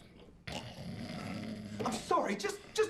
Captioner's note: guy snoring